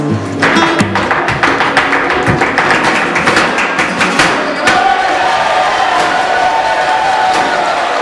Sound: clapping; cheering

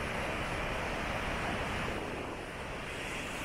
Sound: none

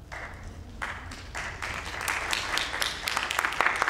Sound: applause

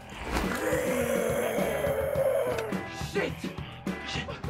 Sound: snarling; uptempo rock music

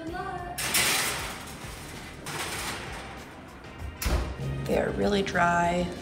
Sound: metals clanging

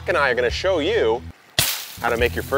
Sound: fork thumps hay bale

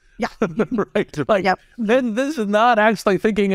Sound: laugh

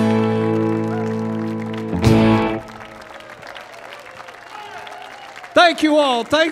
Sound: audience cheering and applauding

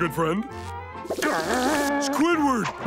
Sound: groaning

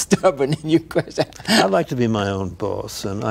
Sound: laughs

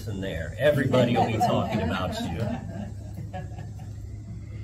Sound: laughter

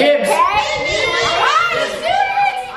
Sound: kids In Unison

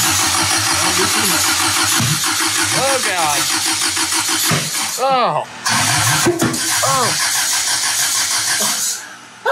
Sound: crazy cartoon engine popping noises

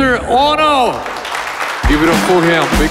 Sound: crowd applauding

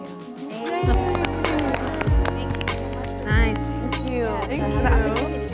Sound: participants clapping; cheerful pop music

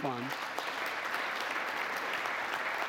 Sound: applause

